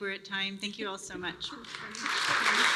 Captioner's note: applause